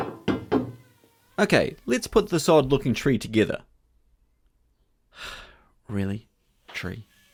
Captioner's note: sigh